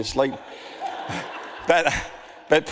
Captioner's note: audience laughs